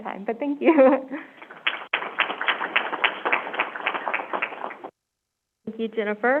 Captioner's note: laughing; crowd applauding